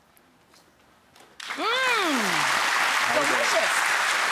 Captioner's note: audience claps